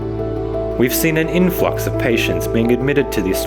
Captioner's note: voiceover